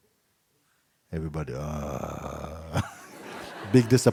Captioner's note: laughter